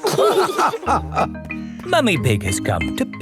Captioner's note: all laughing